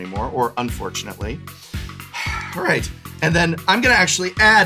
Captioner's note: sighs